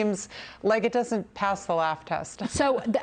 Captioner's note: laughter